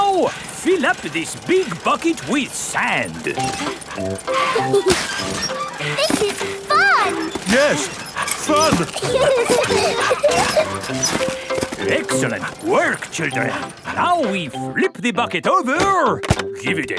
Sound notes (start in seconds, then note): 4.2 mummy and daddy pig panting; 4.2 peppa and george laughing; 7.8 straining; 9.3 peppa and george laughing